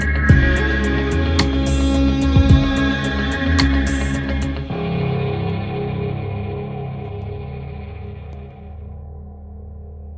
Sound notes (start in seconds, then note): none